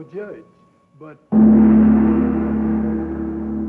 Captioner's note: gong booms